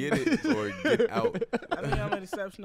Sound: laughs

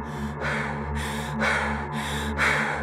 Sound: scared breathing

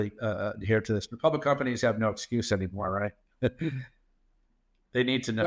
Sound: laughs

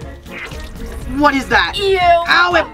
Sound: ketchup squirting

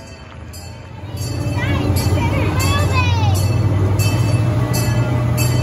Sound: train bell clanging

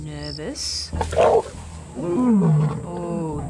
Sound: roars

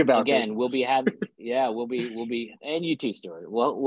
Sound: laughs

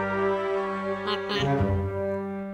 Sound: car horn

